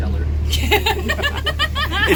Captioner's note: laughs